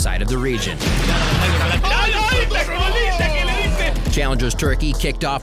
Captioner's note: foreign shoutcasters yelling